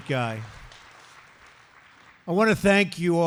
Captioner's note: applause